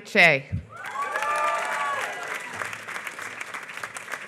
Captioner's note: applause